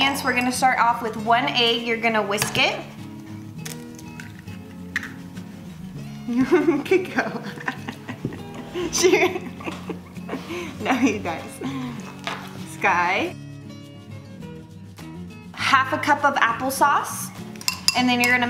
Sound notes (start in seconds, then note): 6.2 laughs